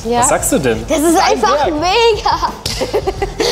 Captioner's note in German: laut